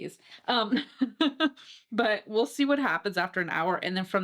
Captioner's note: laughing